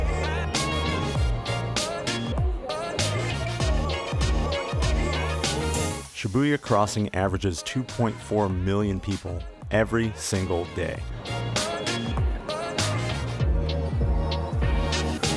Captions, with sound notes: (Ambient crowd sounds) Shibuya crossing averages 2.4 million people every single day.